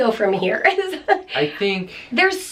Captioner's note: giggles